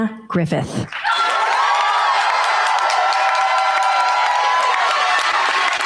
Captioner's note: cheers, applause